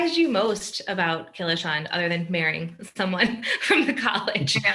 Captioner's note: laughing